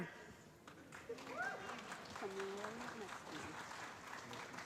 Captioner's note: applause